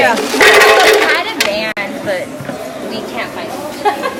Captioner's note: ice clattering; laughing